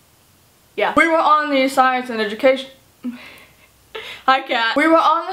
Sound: giggle

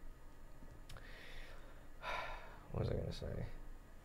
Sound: sighing

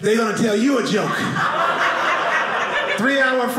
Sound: audience laughing

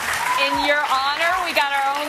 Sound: applause

